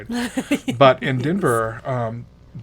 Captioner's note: woman laughs